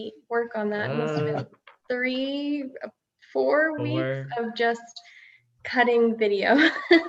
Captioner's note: giggling